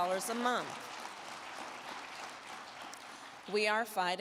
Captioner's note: crowd clapping